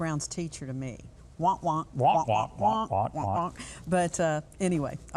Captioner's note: both vocalize